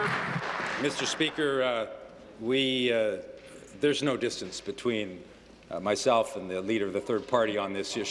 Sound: applause

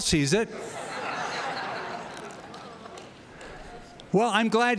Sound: laughter

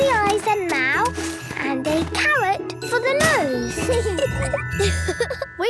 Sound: giggling; laughing

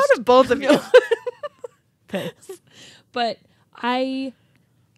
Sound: chuckling

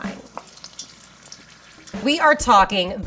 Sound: cooking oil simmering

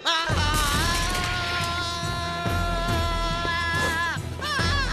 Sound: screaming

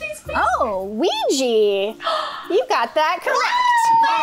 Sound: gasps

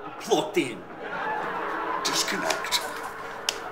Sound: haunting laughter grows louder

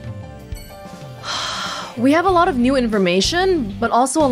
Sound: exhales

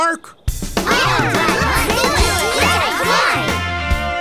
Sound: cheering

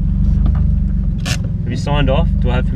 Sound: handbrake clicks

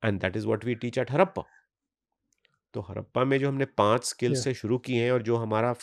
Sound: speaks hindi

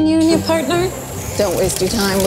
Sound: lighter roaring

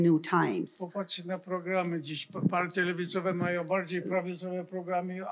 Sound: foreign language

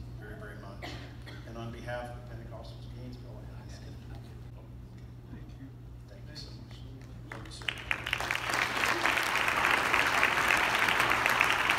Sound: clapping

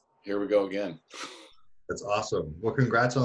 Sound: chuckles

